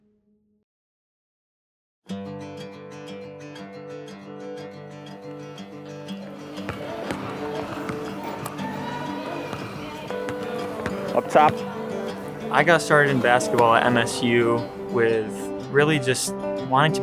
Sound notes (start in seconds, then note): 2.1 steady string music; 6.2 balls bouncing